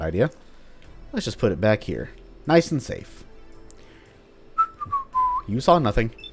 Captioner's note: totally innocent whistling